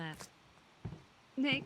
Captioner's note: footsteps